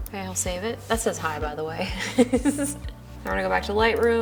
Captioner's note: laughs